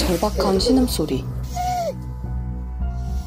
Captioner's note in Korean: 끼잉